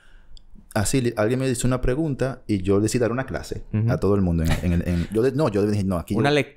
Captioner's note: laughs